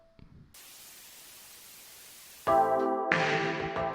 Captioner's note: TV static buzzes